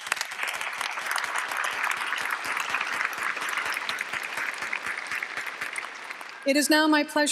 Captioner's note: applause